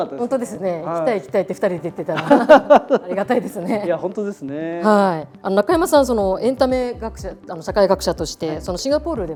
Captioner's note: laughs